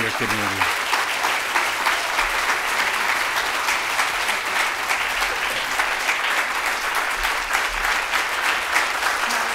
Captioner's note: audience applauding